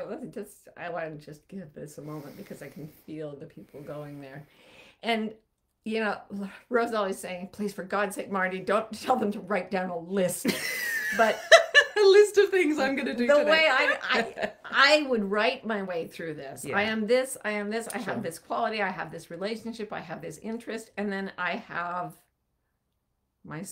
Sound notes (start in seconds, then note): 10.6 laughing